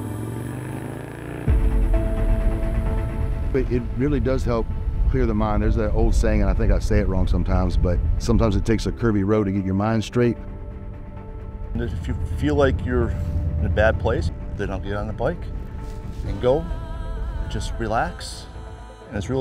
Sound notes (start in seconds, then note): 0.0 motorbike engine roaring; 2.3 uplifting music